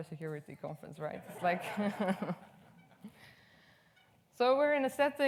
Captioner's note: audience laughs